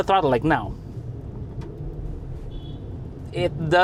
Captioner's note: engine revs